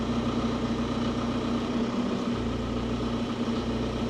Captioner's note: engine humming